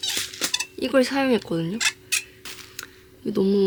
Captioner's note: squeak